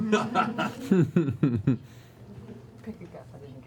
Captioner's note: laughter